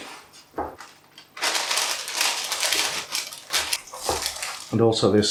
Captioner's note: crinkle crinkle